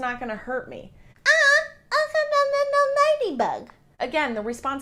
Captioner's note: speaks gibberish